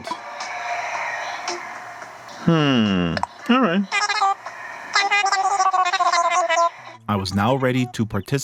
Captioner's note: game noise; tiny gibberish sounds